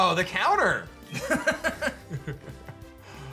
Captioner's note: laughs